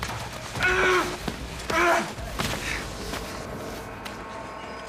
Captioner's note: man yelling